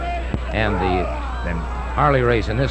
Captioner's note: wrestlers roaring